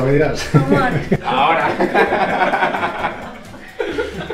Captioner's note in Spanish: laughter